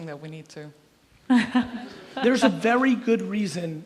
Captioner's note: laughs